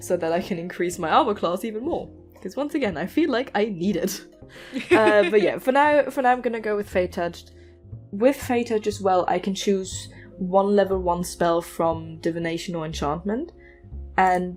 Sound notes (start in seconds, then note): 4.7 laughter